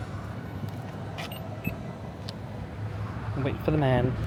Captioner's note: panel beeping